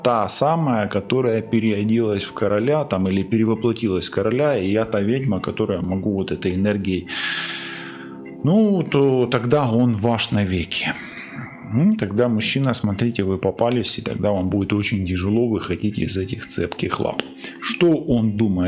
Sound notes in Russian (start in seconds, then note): 7.1 вздыхает